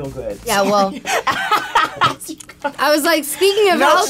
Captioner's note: laughing